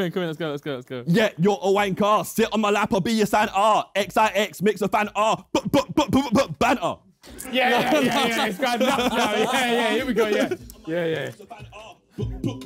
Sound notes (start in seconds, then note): 9.2 Sidemen laughing